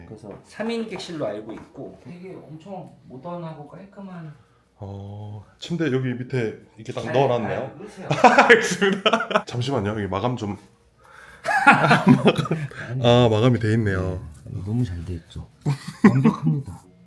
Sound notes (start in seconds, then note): 8.1 chuckles; 11.4 laughs